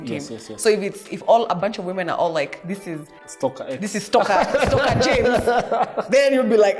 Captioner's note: laughs